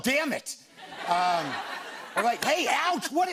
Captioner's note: laughter